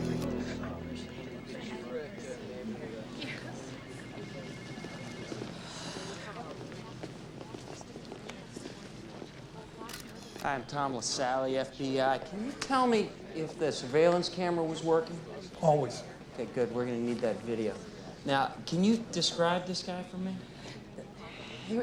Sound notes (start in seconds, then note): 1.4 group chattering